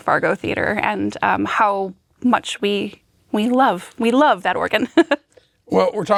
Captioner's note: chuckles